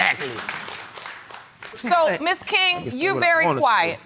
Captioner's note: applause